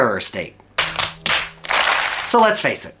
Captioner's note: hands slapping